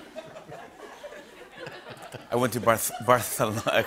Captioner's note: laughter; laughs